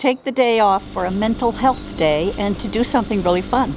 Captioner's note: engine running